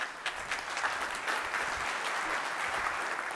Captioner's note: applause